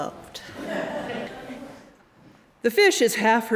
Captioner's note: audience laughing